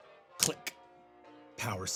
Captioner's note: click